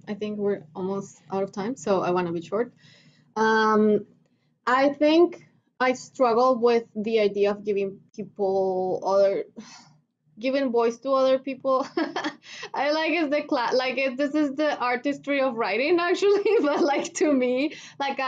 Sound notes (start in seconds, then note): 11.9 laughter